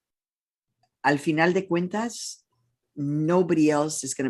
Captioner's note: speaking in foreign language